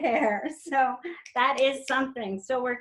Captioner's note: laughs; snaps